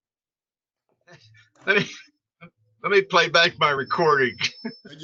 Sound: chuckling

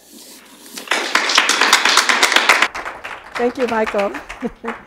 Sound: applause

